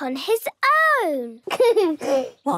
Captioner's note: giggles